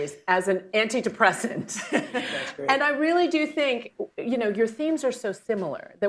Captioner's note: laughs